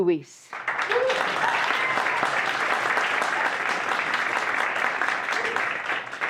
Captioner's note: audience applauding